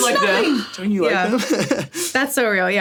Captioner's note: laughs